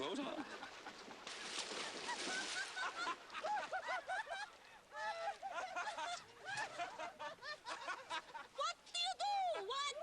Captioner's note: howls of laughter